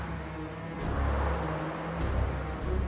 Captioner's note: cars riding